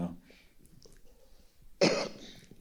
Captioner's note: coughs